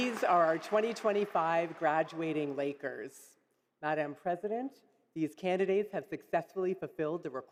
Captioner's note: applause